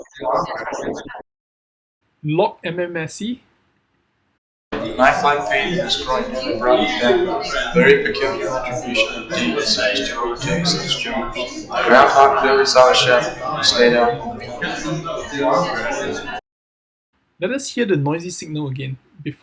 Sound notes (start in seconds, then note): 4.8 log-MMSE enhanced signal playing